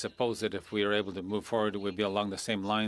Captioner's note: speaking French